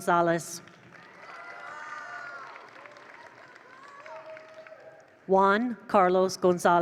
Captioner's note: attendees applaud; attendees cheer